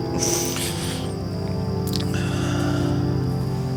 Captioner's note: Addison sighs